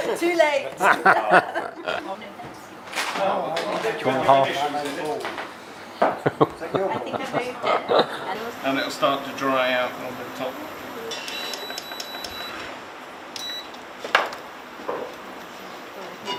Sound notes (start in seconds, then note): 0.8 laughs